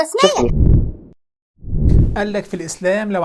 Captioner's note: sound effect